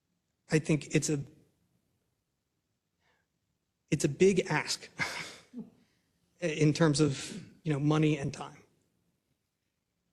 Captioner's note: laugh